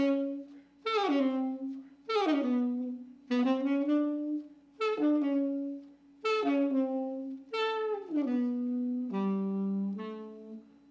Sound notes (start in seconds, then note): none